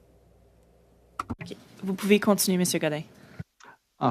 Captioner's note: speaking Alternate Language